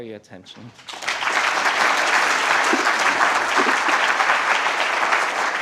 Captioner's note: applause